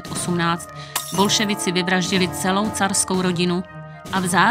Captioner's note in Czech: tříštící se sklo